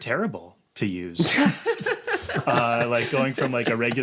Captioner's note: laughs